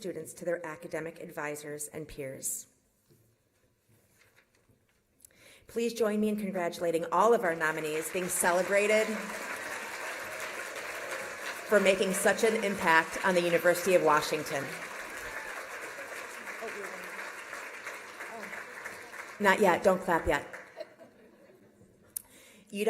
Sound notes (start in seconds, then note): 15.4 applause